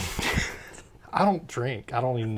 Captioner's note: laughs